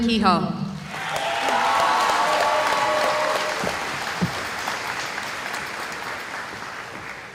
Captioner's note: cheering